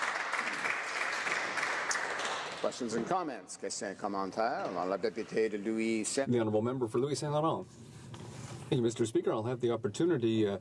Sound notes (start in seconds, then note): 0.0 applause